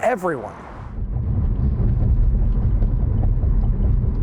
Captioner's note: car rumbling